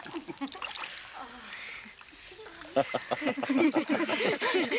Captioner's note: laughter